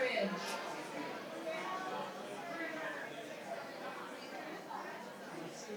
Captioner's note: participants chatter